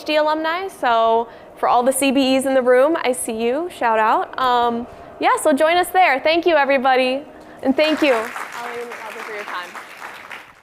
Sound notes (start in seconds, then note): 7.7 applause